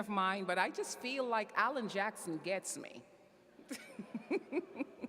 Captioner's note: laughs